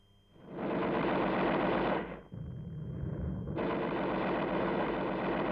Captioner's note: continuous gunshots